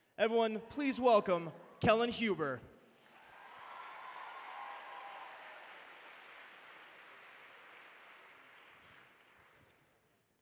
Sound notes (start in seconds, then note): 2.9 applause